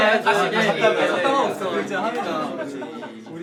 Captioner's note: small talk resumes